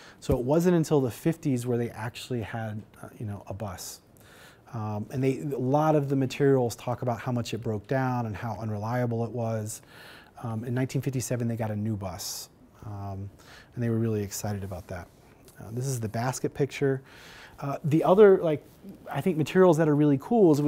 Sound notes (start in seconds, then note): none